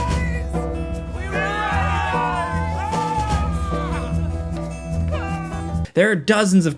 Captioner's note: light upbeat music; cultists yelling